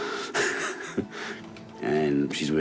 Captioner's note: laughs